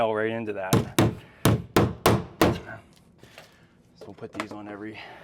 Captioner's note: hammering